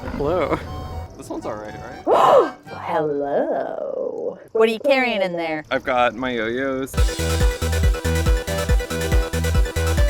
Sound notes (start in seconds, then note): 2.5 gasps; 7.0 electronic music